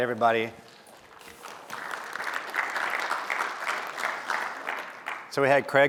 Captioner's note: applause